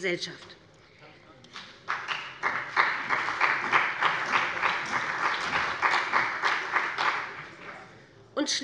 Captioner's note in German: Beifall bei dem BÜNDNIS 90/DIE GRÜNEN und der CDU